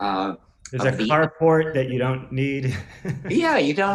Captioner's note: laughs